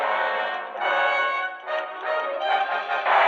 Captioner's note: ticking